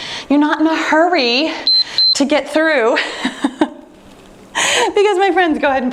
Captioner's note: timer beeping; laughing